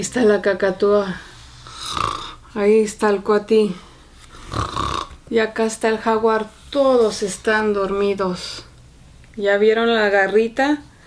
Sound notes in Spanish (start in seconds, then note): 0.0 ronquido; 4.3 ronquido